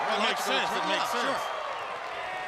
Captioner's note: crowd cheering